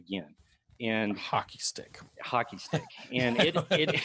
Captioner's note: laughs